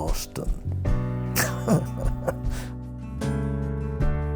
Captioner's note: chuckling